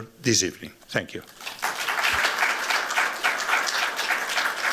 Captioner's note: applause